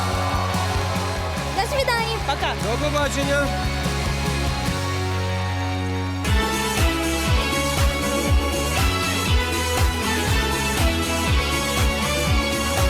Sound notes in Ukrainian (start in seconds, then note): 6.2 оплески